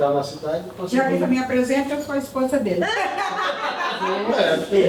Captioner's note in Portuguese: risada